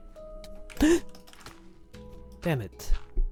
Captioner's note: gasp